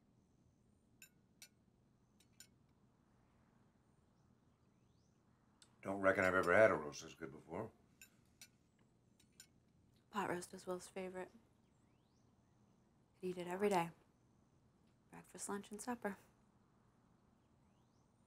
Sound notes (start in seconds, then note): none